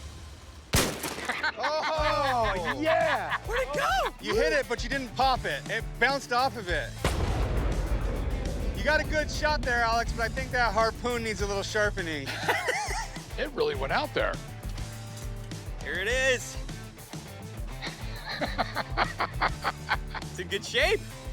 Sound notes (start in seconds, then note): 0.7 harpoon gun fires; 1.1 laughter; 7.0 harpoon gun fires in slow motion; 12.2 laughter; 14.3 rock music; 17.7 laughter